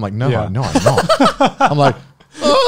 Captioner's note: laughs